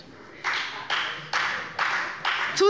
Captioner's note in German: Beifall bei der FDP